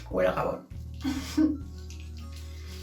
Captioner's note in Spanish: risa ahogada